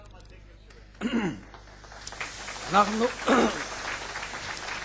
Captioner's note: applause